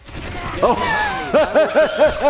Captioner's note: laughs